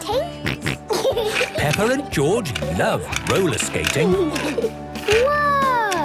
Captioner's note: snorting and giggling; laughter